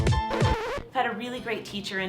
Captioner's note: record needle scratches